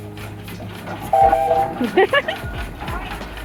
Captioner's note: loud whistle; giggle